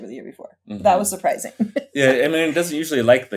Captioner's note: laughs